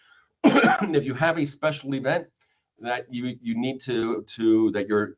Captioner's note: coughs